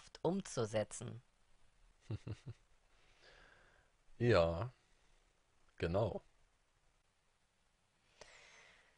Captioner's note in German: lacht